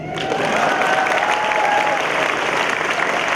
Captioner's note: applause